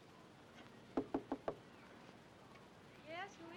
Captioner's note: knocking